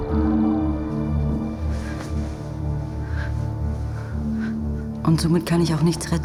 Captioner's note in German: Atemgeräusche